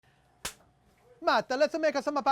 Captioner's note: hand clap